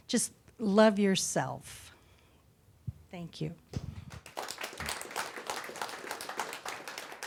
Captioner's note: applause